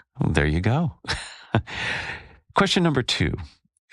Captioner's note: laugh